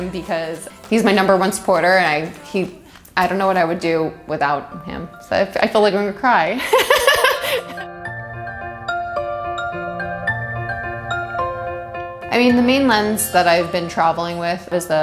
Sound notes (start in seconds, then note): 6.6 laughing; 8.0 upbeat music